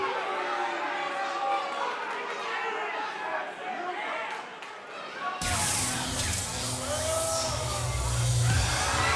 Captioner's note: cheers & boos